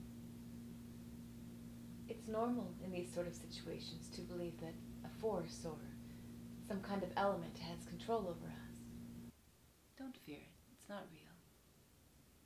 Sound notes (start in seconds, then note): none